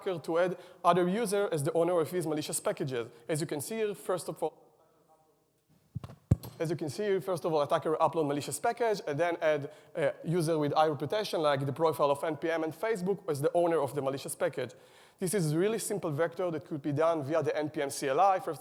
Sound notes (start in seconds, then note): 5.9 mic thuds